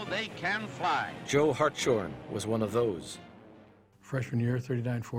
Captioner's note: voiceover